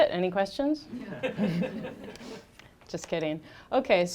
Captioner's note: audience laughing